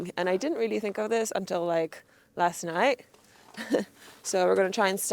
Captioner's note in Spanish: risas